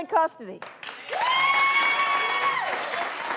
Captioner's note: applause